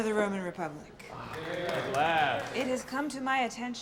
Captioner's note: applause